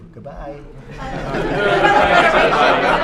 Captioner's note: laughter